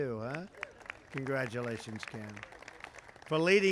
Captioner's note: applause